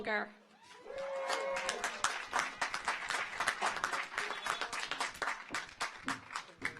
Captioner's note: car horns honking; audience applauds